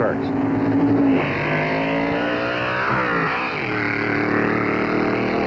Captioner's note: engines roaring